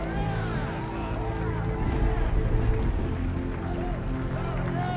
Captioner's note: team cheering